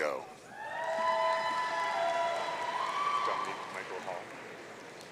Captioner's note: audience cheering